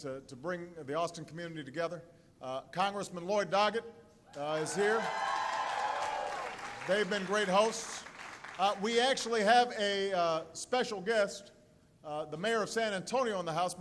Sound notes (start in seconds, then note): 4.5 applause